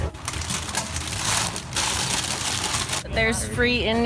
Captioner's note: crinkling